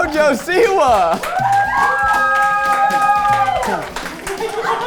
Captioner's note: crew cheering